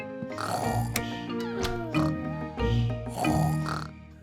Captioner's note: both snoring